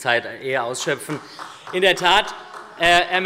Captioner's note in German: Beifall